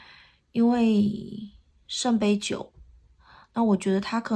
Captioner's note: reversed